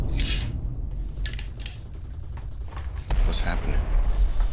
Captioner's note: distant bombs rumbling; faint gunfire popping